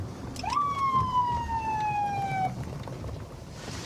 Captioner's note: sirens blaring